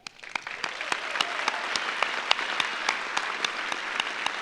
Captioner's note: audience applauds; claps